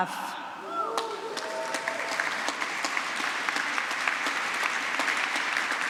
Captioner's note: applause